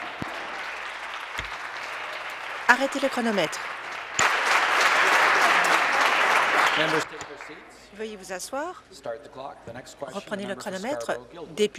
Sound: applause

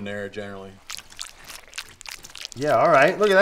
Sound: fish scales squelching

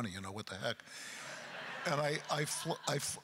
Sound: crowd laughter

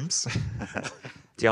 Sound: group laughing

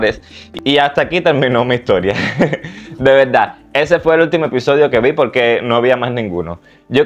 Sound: laughter

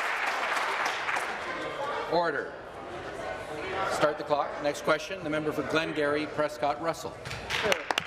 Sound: some Applause

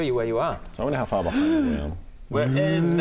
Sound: gasp of wonder

